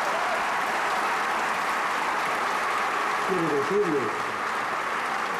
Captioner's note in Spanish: aplausos